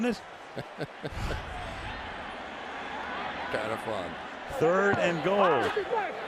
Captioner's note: chuckles